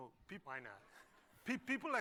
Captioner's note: laughter